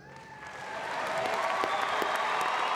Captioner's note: applause